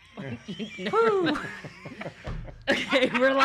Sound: all laughing

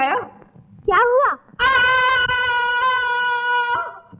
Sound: screaming

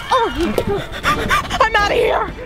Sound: gasping loudly

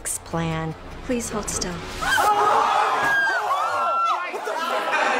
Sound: quests scream

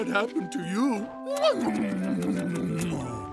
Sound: kissing sounds

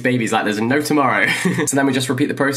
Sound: chuckles

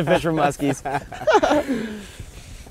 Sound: laughing

